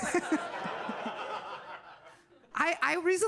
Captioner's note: audience laughing